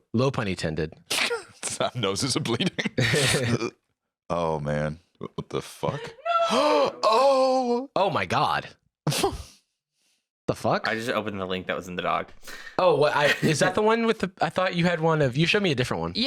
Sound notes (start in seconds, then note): 2.5 laughs; 6.5 gasps